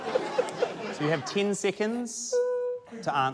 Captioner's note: laughs